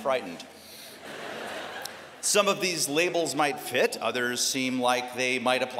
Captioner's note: laughter